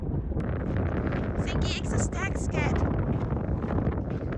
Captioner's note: speaking Danish